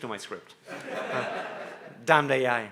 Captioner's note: audience laughing